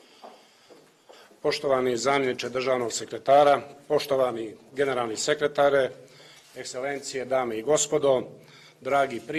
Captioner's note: speaks in Montenegrin